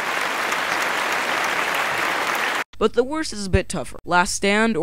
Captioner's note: applause